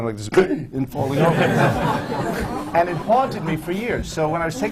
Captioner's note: writes, suddenly gasps and clutches his chest, “dies”; laughter